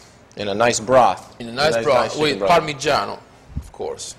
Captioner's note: Italian